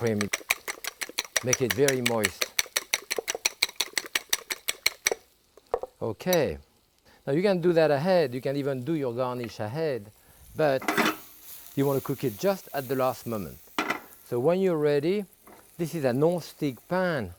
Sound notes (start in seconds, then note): 3.0 fork clacking; 11.3 pan sizzling; 13.8 pan thudding